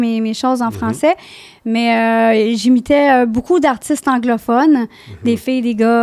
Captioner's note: in french